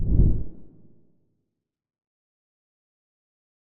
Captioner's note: logo whooshing